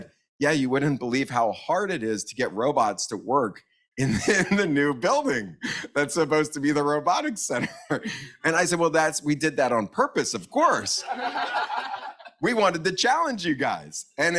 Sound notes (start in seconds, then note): 3.5 laughs; 8.0 laughs; 11.0 audience laughs